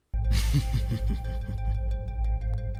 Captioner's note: reflective music; Shadow chuckles ominously